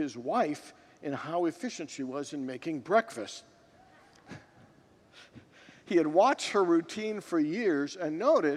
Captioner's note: congregants laugh